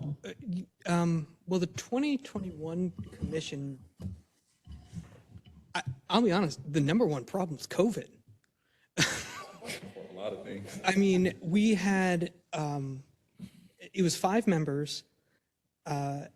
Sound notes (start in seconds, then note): 9.0 laugh